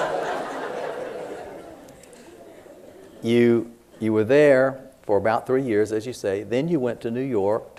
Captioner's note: laughter